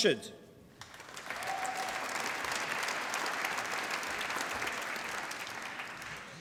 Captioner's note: applause